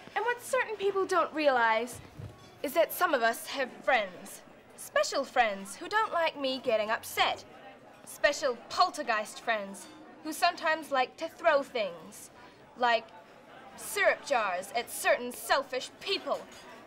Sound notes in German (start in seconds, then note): none